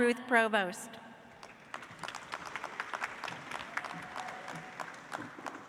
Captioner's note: audience applauds